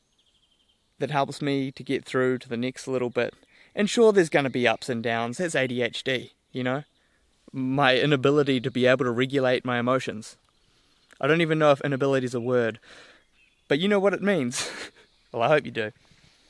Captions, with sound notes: that helps me to get through to the next little bit. And sure there's gonna be ups and downs. That's ADHD. My inability to be able to regulate my emotions. I don't even know if inability is a word, but you know what it means. (Laughs.) Well, I hope you do.